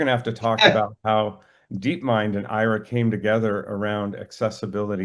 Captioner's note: laughs